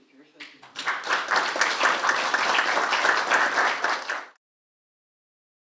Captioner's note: audience applauds